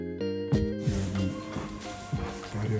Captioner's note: slurs